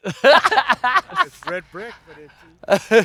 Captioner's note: laughs